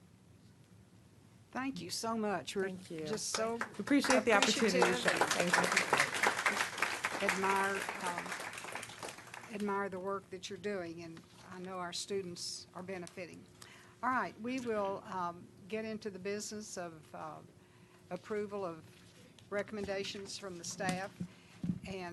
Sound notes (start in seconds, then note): 8.2 applause